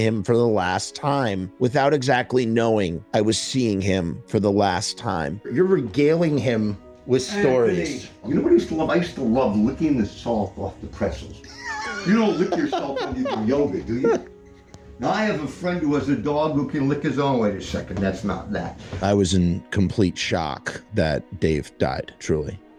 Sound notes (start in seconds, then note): 11.4 amused laughter; 11.4 wheezy laughing